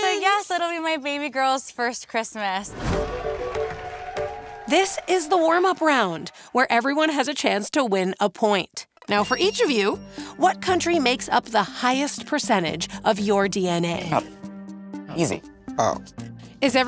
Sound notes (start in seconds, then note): 2.8 crowd cheers and claps